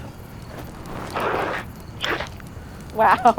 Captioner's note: extinguisher sounds